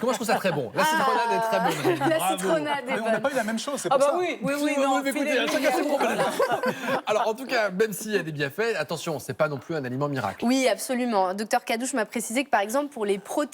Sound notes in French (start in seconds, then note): 1.2 rires; 5.5 rires